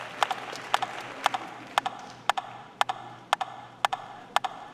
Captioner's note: audience applauding